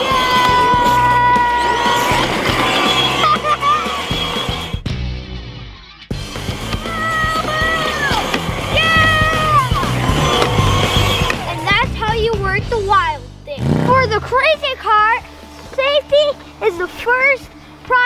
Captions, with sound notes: Yay! (laughs) (upbeat music) Whoa! Yeah! And that's how you work the Wild Thing. For the Crazy Cart, safety is the first priority